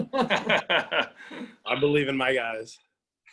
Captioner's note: laughing